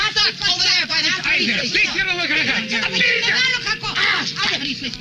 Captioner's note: both shouting in foreign language